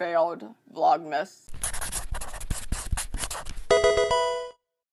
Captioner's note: scratching